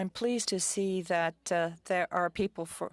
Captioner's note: speaking French